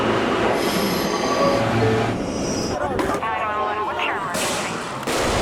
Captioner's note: doors chiming; fireworks booming